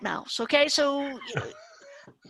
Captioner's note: laughs